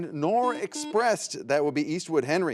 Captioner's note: buzzer buzzes